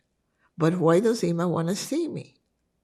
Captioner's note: hebrew